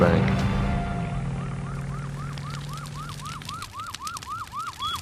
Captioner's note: fire alarm